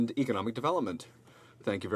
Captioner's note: speaking in french